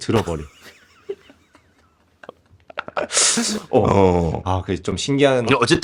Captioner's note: laughs